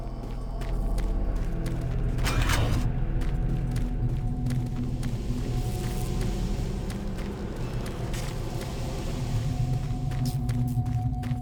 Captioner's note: gunshots